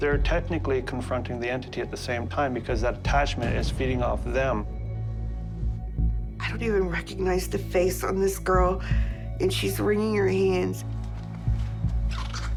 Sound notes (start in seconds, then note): none